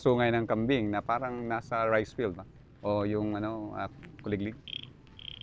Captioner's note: crickets; mimics crickets chirping